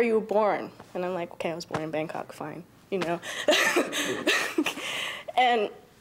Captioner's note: laughing